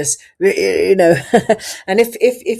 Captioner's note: laughs